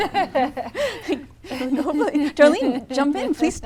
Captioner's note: laughs